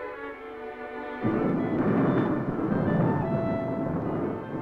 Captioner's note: thunder roaring